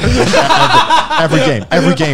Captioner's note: laughing